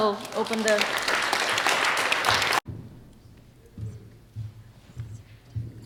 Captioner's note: audience applauds